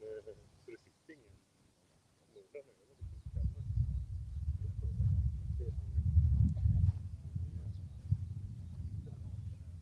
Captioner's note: indistinct chatter